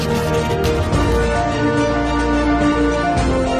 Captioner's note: inspirational music; letters scribbling; inspirational music